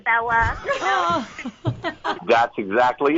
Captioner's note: they laugh